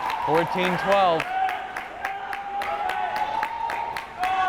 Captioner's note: crowd cheering